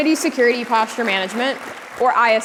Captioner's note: applause